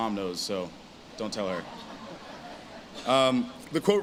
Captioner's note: audience laughs